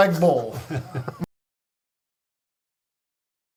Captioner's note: laughs